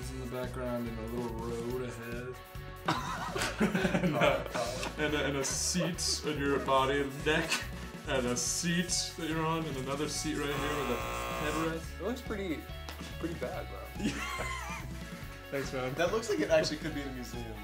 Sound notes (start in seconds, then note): 10.3 buzzer blaring; 13.8 laughing